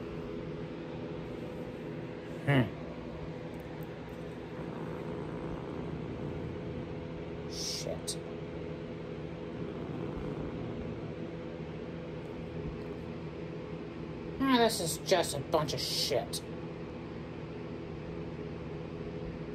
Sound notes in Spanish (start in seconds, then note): 4.0 gruñendo